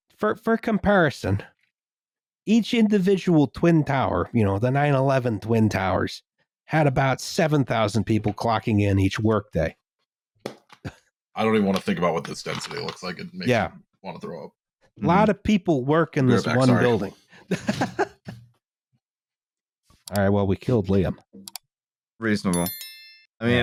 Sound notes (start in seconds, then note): 21.4 click, click; 22.4 happy little bell chime